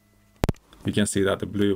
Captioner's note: distorted audio signal